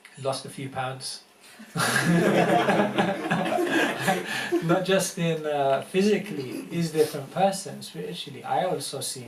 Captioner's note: laughter